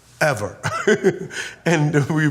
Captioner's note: laughs